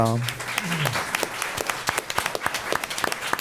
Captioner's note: applause